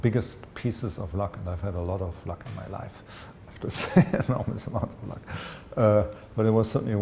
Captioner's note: chuckle